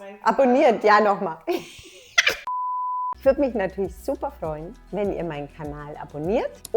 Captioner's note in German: lacht; Piepton